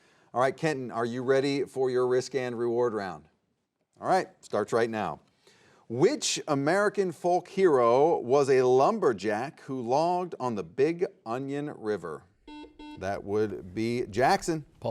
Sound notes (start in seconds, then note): 12.4 buzzer beeping